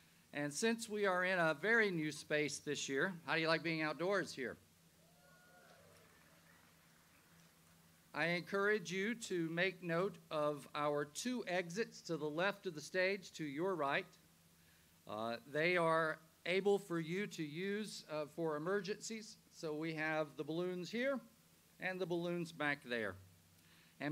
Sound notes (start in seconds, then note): 5.0 audience cheers